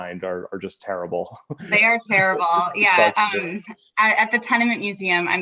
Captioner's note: laughter